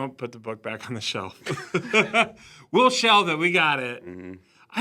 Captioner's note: laughs